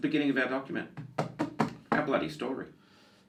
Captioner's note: hits table